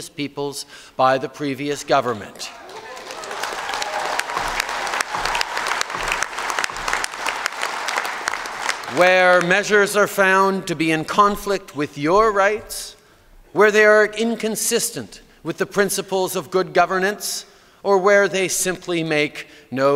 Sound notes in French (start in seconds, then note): 2.4 Applaudissements